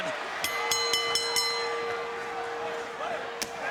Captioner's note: bell dinging